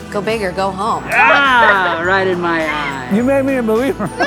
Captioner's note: exclaiming